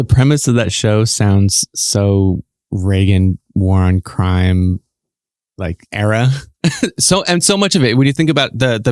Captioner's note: guffaw